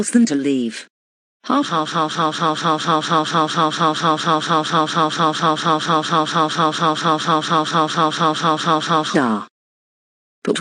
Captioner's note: evil laugh